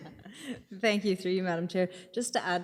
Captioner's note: laughing